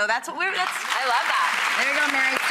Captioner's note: applauds